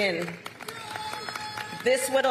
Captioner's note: applause